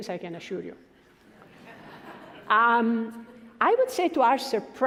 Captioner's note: laughing